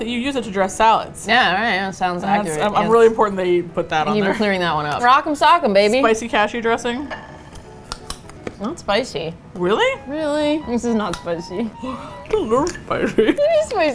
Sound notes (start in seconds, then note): 6.9 crunch; 10.7 laughing